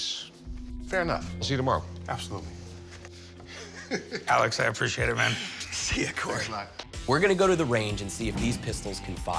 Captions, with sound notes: - Fair enough. - I'll see you tomorrow. - Absolutely. [chuckles] - Alex, I appreciate it, man. - See you, Corey. - Thanks a lot. - We're gonna go to the range and see if these pistols can fire.